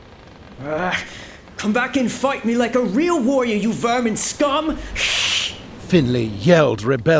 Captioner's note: hisss!